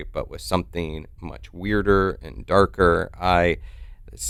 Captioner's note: none